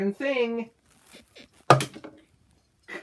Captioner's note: bed squeaks